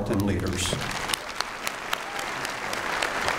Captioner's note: applause